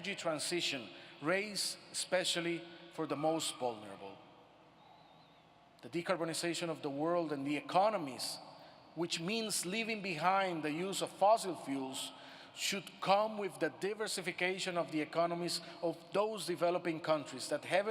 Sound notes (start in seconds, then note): none